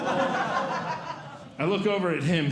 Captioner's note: audience Laughing